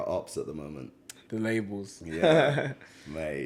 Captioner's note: laughs